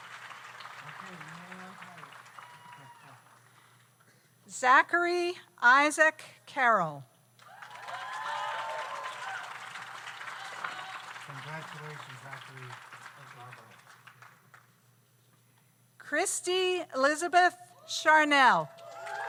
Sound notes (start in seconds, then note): 7.4 audience cheers; 7.4 audience applauds